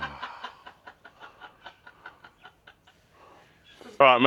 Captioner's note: laughing